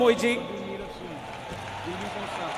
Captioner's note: cheering/Applause